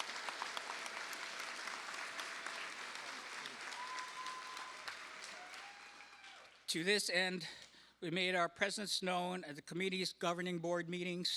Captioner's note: cheers and applause